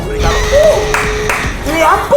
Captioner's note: claps in Spanish